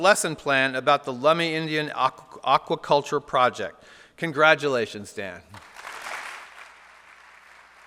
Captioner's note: applause